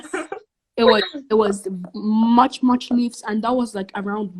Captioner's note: laughs